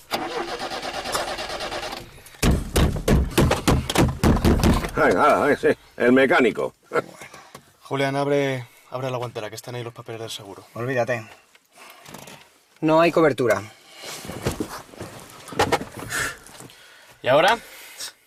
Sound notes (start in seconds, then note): 0.1 engine faltering; 2.4 hitting; 5.3 sarcastic